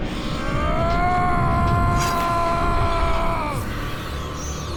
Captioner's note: yelling